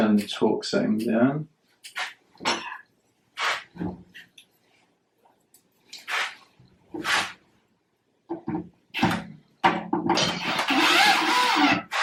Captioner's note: drilling Noise